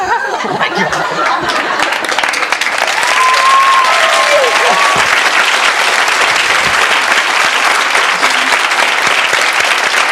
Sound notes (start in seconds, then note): 2.5 audience clapping